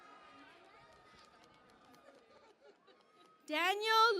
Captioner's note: cheering and Applause